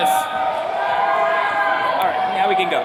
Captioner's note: attendees cheering